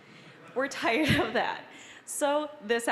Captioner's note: audience laughing